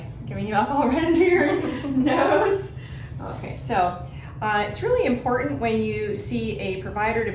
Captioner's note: laughing